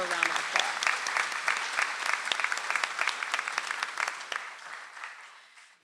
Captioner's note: audience applauds